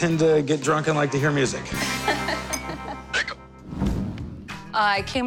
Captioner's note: laughter